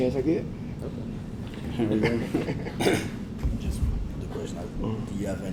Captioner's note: laugh